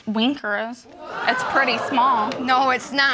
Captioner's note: audience exclaim